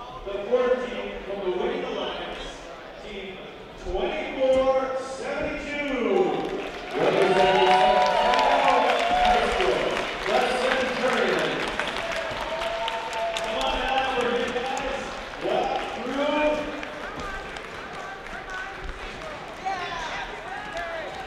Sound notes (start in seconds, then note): 11.9 crowd cheers; 18.1 the sound of enthusiastic high-fives